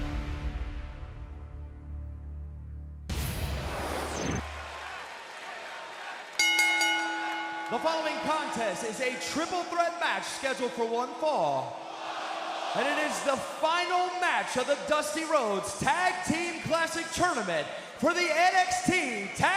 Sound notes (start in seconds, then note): 0.2 crowd chatter; 6.3 bell ringing